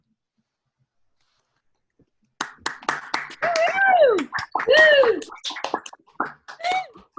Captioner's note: attendees applauding; attendees cheering